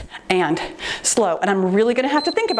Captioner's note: timer beeps